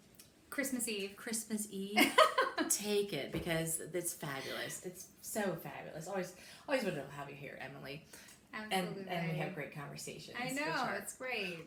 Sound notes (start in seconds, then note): 1.9 laughs